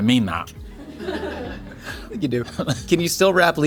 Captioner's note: people laughing